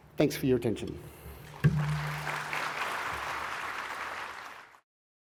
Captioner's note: audience applauding